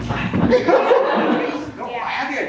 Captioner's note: audience laughs